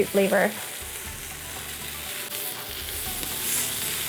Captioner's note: food sizzling